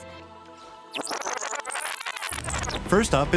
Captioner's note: rewind noise